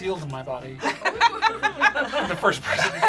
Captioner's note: group laughs